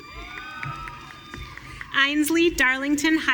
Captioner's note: audience cheering